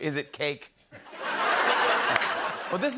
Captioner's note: laughter